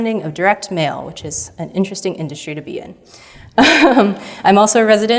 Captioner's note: chuckles